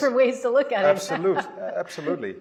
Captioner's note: laughs